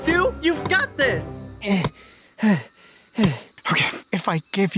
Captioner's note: grunting